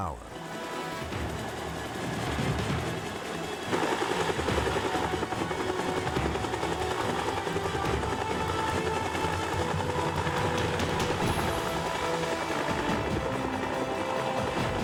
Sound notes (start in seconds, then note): 0.1 dramatic music; 4.7 dramatic music continues; 4.7 helicopter whirring